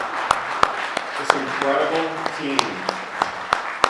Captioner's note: clapping